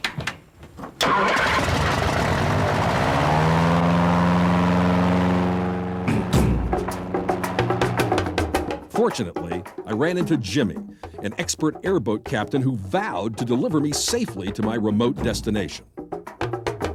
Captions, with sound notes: (revving) Fortunately, I ran into Jimmy, an expert airboat captain who vowed to deliver me safely to my remote destination.